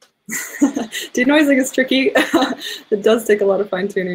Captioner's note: laughs